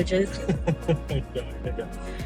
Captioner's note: laughs